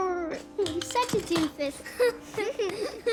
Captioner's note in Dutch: giechelend